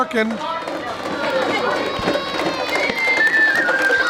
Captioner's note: chatter; flute playing